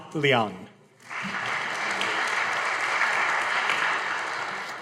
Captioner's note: audience applauding